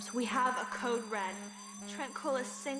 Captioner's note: internal alarm sounding